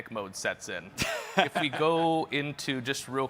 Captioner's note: chuckles